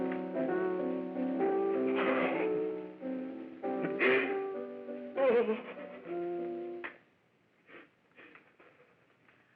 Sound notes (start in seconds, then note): 2.1 sobbing